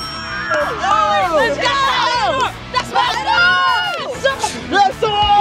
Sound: overlapping cheers

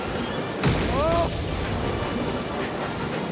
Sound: explosions

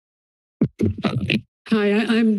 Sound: mic thumps

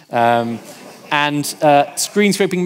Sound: audience laughing

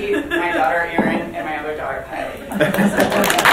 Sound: mumbling; audience claps

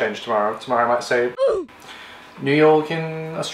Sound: ooh! Effect

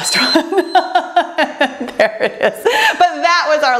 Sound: timer beeps; laughs

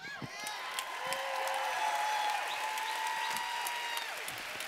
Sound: applause

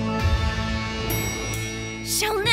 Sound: elevator dings

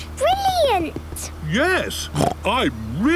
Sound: snort

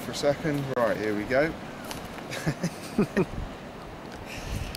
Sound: laughs

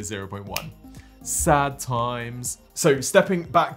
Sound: fingers click

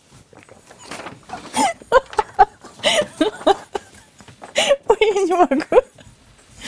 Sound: laughing

